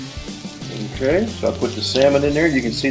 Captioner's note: voiceover